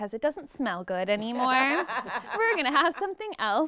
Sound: laughing

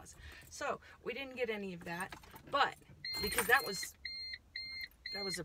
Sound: beeping

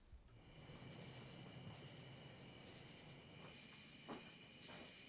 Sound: insects chirping

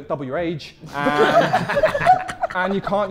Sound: Sidemen laughing

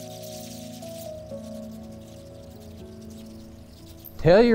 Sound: light synth music; bats chirping

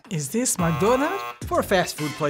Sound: buzzer

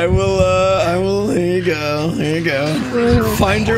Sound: mocking mumble

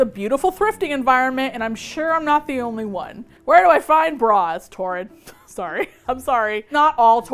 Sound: laughs

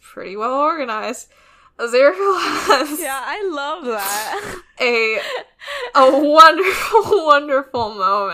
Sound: laughing

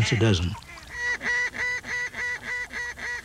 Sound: duck calls

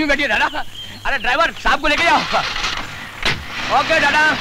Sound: engine starts

